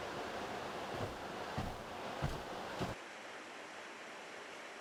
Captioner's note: feet thudding